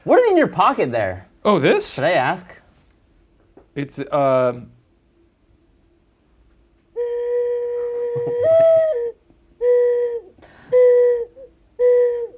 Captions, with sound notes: What is in your pocket there? - Oh, this? - Should I ask? (gentle whistling)